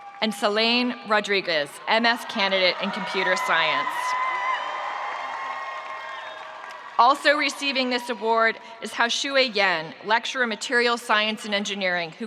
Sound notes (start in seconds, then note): 4.2 spectators cheering